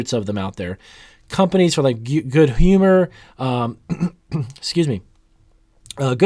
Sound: coughs

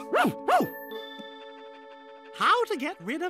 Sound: panting

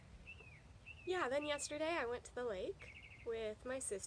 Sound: birds chirping

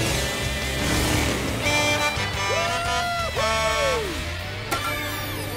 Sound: honking

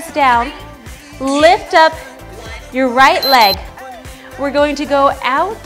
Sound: beeps

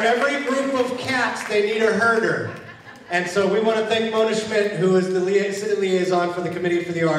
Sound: applause

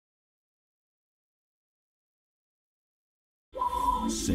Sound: silence

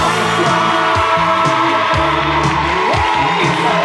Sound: audience cheering

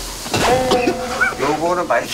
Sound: coughs it out

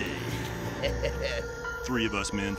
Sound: chuckles

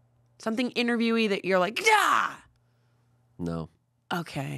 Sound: yells

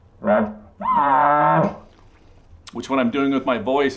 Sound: elk call growl sound

